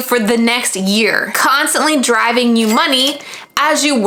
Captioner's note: money chinging